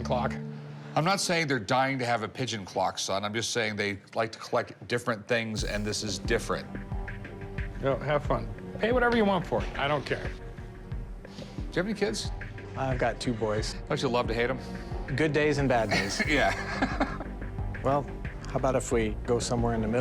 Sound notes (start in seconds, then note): 15.8 laughs